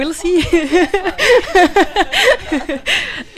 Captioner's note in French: rires